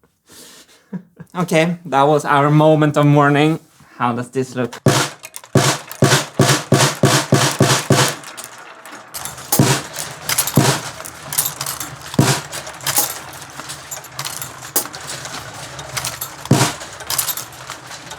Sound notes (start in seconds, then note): 5.4 a series of the marble drops on the drums